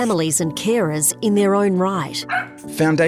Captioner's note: dog barks